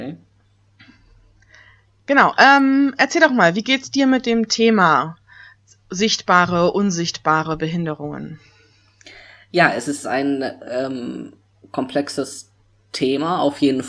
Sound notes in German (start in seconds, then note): none